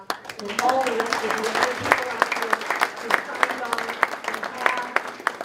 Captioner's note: speaker drowned out by applause